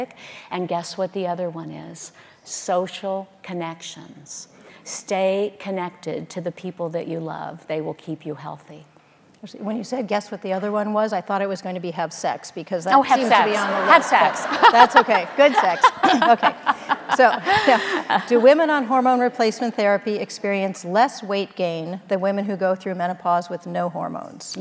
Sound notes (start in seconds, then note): 15.6 audience laughing